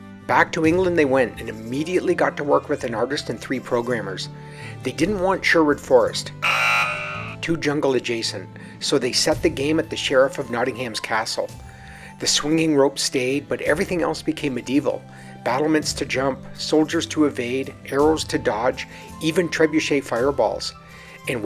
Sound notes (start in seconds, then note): 6.4 hockey buzzer